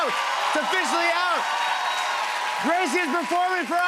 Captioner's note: cheers and applause